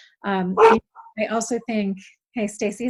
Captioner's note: dogs barking